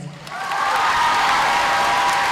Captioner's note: audience applauding